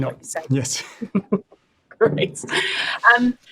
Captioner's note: laughs